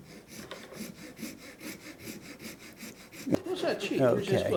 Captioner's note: file scraping